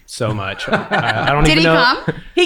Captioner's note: laughing